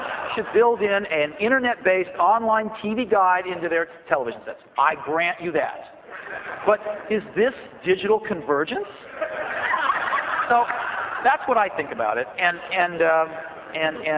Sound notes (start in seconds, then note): 0.0 laughter; 9.0 laughter